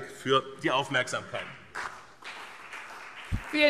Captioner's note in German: Beifall BÜNDNIS 90/DIE GRÜNEN und CDU